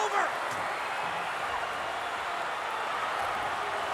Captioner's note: crowd cheering